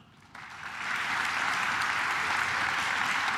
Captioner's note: claps